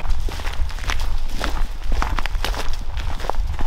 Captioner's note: footsteps crunch